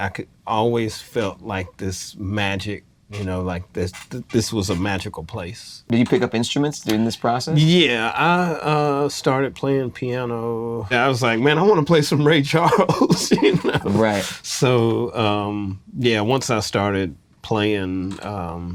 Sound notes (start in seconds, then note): 12.5 chuckles